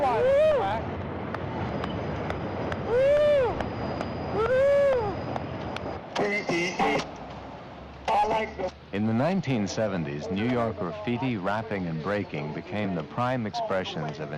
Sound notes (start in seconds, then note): 2.8 applauds